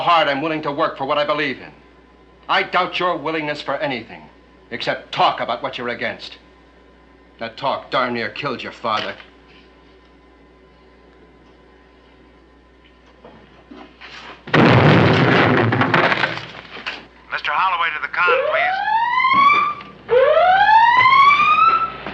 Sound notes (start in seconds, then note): 14.4 booming; 18.2 siren blaring